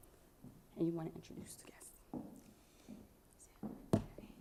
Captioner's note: speaking faintly